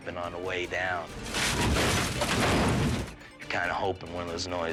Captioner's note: dramatic music; Jeep imploding